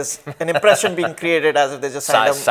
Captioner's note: laughs